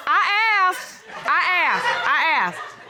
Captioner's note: laughter; laughs